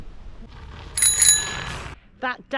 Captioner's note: bell Ring